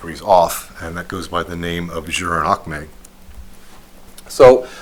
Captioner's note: non-english speech